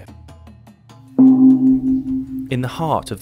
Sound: gong sounds

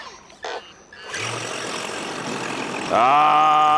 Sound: tires skidding water

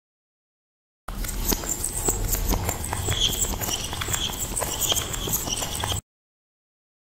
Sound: sound of weird squeak

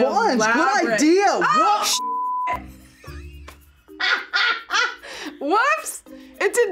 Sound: laughs

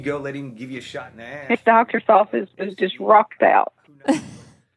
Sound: laughs

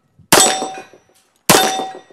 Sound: bang

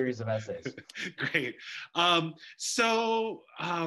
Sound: chuckles

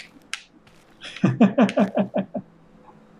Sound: chuckles

